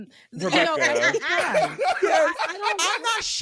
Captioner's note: laughing